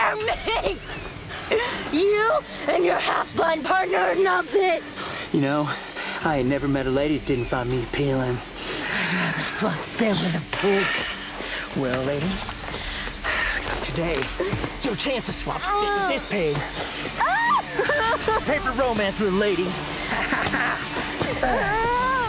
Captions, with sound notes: You and your half blind partner are nothing. - You know, I have never met a lady who didn't find me appealing - I'd rather swap spills with a pig. - Well lady, except today. It's your chance to swap spills with this pig. (Promise screams) Paper romance little lady.